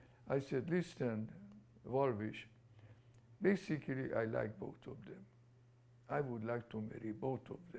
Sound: non-english

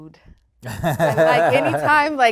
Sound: group laughing

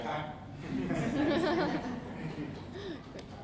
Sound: audience laughs

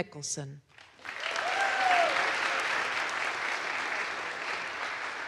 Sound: audience applauds

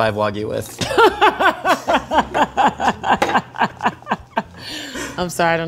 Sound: laughing

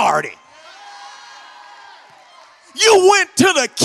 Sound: congregation shouts

